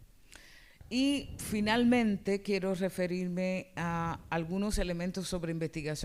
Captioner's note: speaking spanish